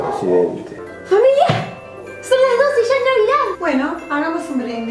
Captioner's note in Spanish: Golpea la mesa